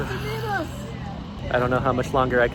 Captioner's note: deepest of sighs